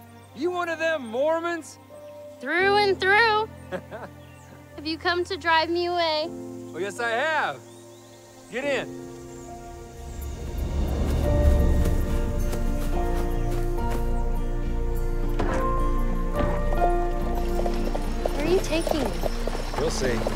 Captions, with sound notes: You one of them Mormons? -Through and through. -[laughs] Have you come to drive me away? Well, yes, I have. Get in. [playful music playing] -Where are you taking me? -You'll see.